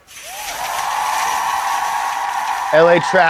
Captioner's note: audience cheers